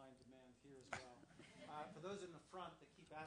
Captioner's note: laugh